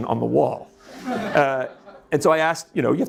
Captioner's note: audience laughs